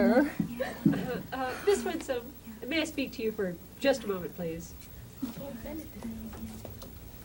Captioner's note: pat